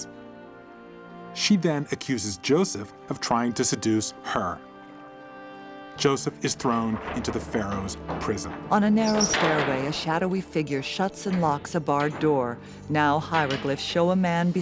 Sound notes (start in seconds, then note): 8.0 prison door slamming; 9.0 keys jangling, lock turning